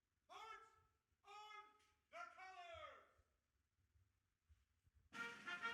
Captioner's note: officer calling out commands